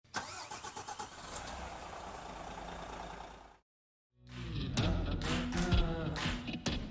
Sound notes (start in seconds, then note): 0.0 engine starting; 4.2 upbeat music